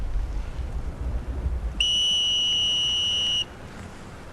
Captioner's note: whistling